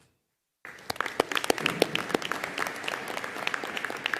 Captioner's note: audience applauding